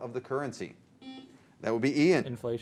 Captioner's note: buzzer